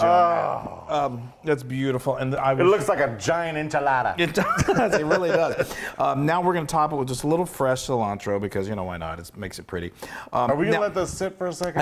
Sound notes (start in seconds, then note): 4.3 laugh